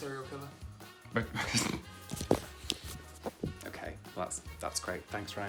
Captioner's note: chuckles